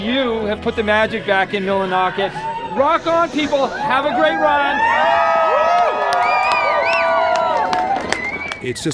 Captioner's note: cheers!